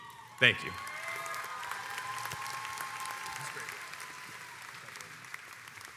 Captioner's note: crowd cheers and applauds